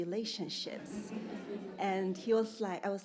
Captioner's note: audience laughing